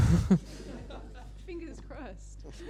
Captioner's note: laughter